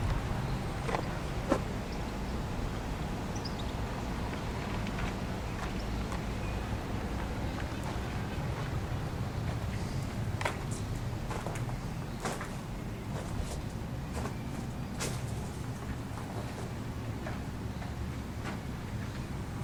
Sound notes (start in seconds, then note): 10.1 footsteps on Rocks